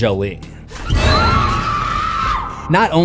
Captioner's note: screams